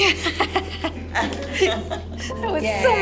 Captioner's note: laughing